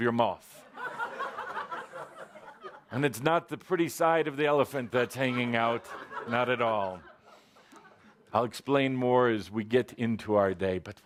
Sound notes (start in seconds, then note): 0.0 laughter; 1.2 more laughter